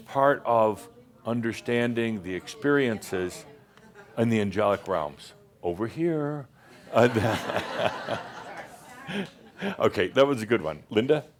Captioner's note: laughter